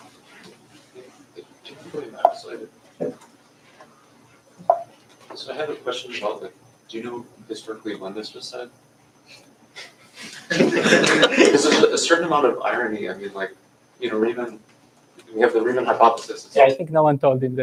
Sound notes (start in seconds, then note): 10.2 laughter